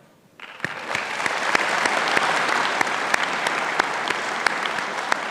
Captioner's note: audience applauding